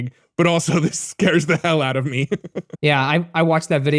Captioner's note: laughs